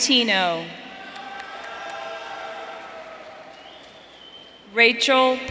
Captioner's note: audience cheering